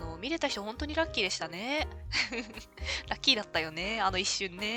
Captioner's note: laughs